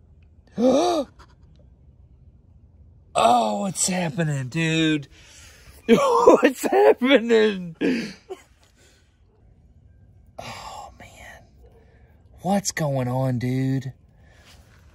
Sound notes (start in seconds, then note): 0.5 menghirup nafas; 5.2 Tertawa